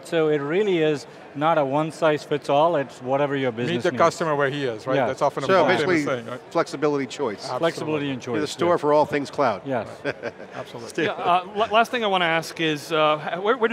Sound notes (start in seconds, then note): 9.9 laughing